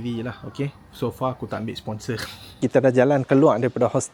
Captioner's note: laugh